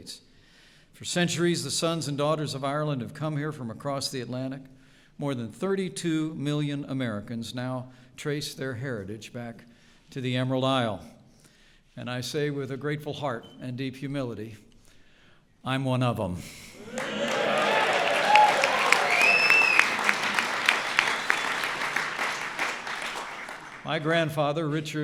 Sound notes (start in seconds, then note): 17.1 applause